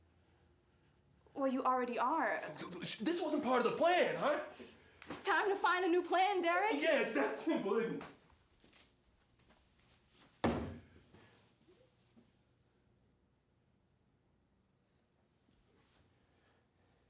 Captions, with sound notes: Well, you already are. This wasn't part of the plan! It's time to find a new plan, Derrick! It's that simple, isn't it? [dull thud]